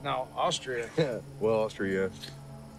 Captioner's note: chuckles